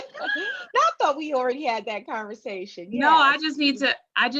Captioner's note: laughing